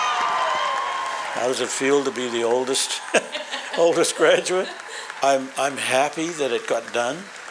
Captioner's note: applause